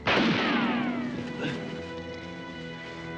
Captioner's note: silah ateşleme